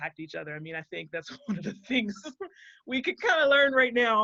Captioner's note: laughs